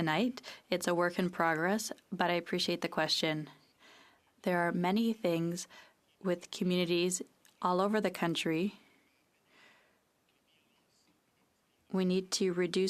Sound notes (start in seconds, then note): 4.5 speaking French